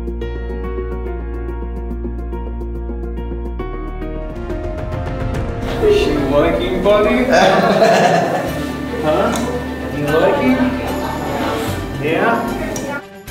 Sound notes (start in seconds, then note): 0.2 elegant piano music; 7.0 laughing